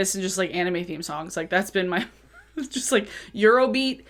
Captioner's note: chuckles